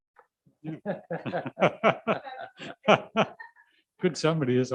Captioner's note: laughing